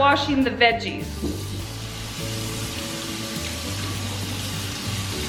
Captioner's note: water running